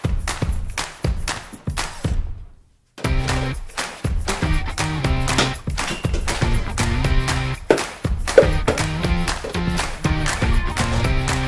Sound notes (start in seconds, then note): 3.1 bowls clatter